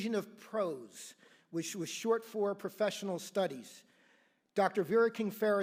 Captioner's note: none